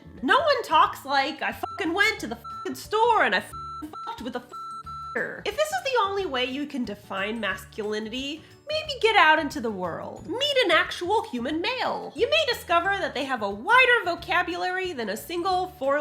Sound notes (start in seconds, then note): 3.4 beep noise